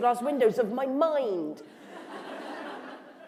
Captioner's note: laughter